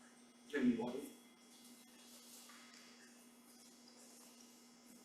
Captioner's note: faintly speaking